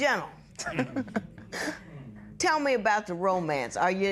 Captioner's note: chuckles